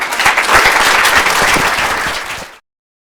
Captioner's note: applause